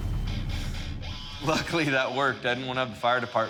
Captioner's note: rock music; laughs